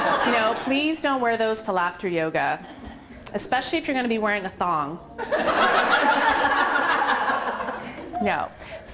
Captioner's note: laughter